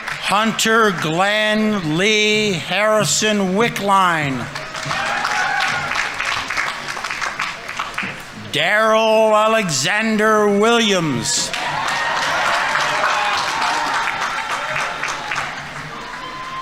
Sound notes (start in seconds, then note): 4.6 audience applauding; 4.6 audience members cheering; 11.0 audience applauding; 11.6 audience members cheering